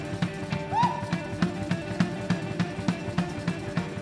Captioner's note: shouting